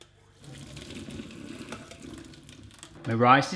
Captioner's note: pouring